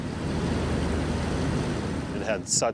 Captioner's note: plane engine rumbling